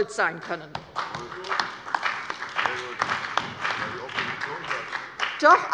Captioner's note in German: Beifall bei der CDU, dem BÜNDNIS 90/DIE GRÜNEN und bei Abgeordneten der SPD